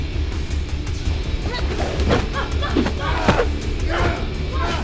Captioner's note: Gabriella grunts